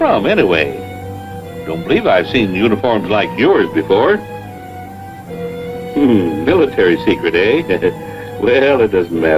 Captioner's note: chuckles